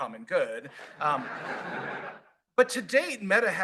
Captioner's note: laughter